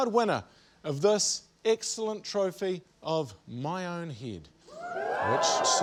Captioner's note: audience 'ooh's